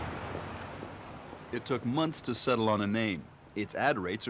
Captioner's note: street din